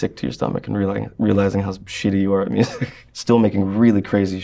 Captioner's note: laughs